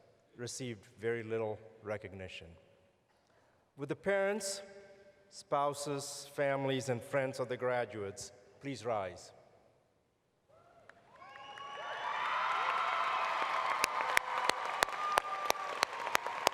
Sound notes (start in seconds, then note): 15.2 applause